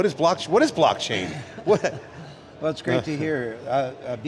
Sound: laughing

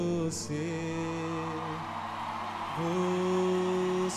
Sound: audience cheers

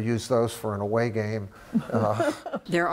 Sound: laughter

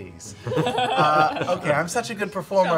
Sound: laughing

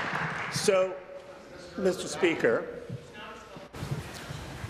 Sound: applause

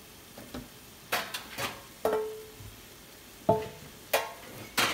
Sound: dishes rattling

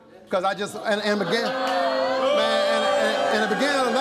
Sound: audience booing

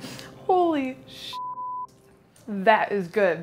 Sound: beep

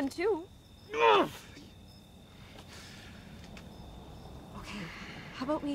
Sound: Heston groans

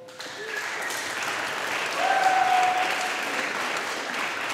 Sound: audience applauding

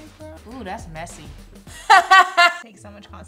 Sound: laughs

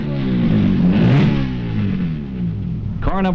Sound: engine sound

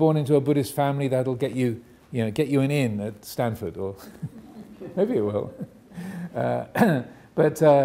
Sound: audience laughing

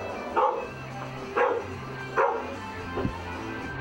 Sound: dog barking

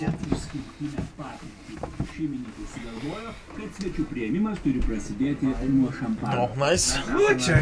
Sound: radio playing

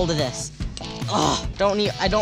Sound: grunts

